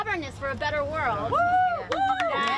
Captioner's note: cheering and applause